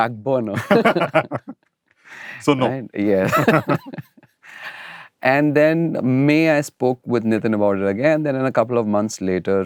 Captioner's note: laughter